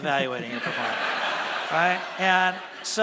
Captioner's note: laughter from audience